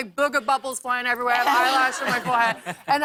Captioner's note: laughter